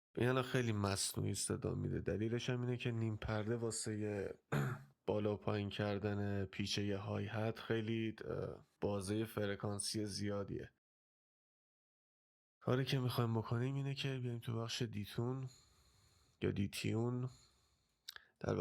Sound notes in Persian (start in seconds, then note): 4.5 گلویش را صاف می‌کند